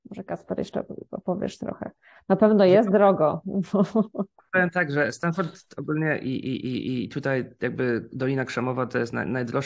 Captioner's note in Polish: śmiech